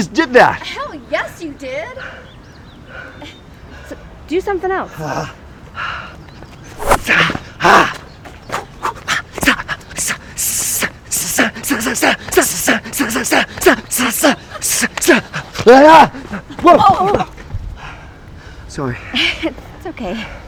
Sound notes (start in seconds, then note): 7.5 Agent Ramsay grunting and vocalizing